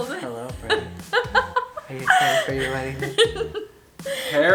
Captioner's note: laughs; male Voice